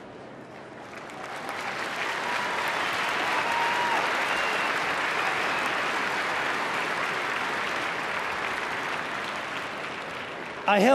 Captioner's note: applause